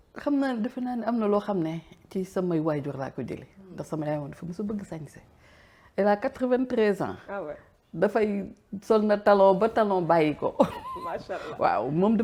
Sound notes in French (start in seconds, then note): 10.6 rires